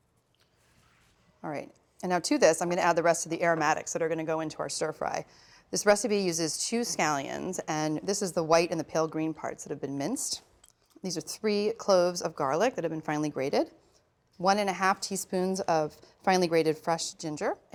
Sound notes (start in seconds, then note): none